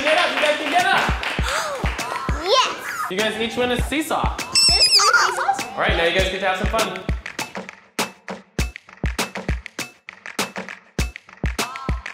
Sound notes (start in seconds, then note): 1.7 clapping; 4.5 squealing; 9.3 upbeat music